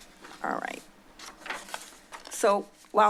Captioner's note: paper shuffling